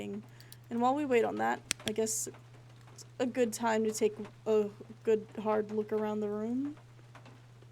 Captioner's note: flashlight Clicks On